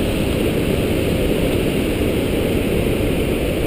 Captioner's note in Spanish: Ruido cascada Loud